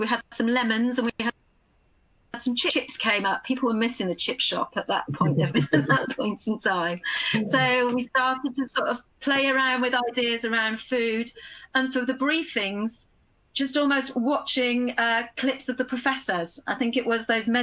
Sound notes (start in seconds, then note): 5.2 laughter